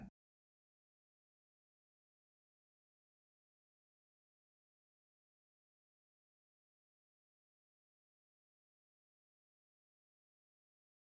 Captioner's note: blank Audio